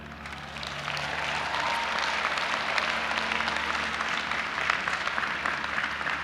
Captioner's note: audience applauding and cheering